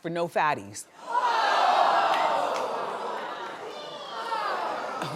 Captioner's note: audience gasps